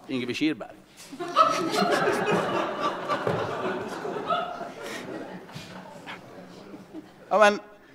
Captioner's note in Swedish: Skratt